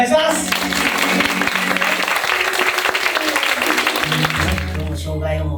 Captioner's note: applause